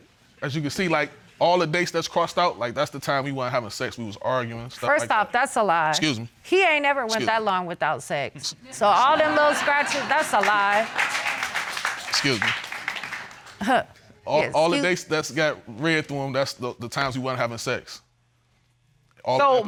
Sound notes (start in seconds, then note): 9.6 applause; 13.4 scoffs